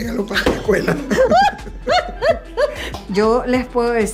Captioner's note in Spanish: laughs